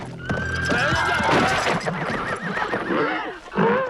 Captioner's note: horses neighing